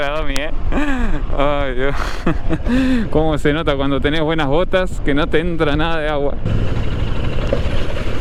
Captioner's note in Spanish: risas